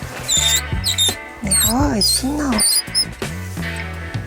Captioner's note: squeaking sound